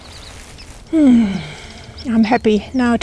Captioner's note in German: Seufzer